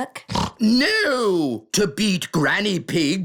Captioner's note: snorts